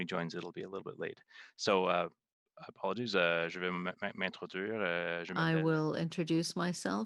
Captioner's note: speaking french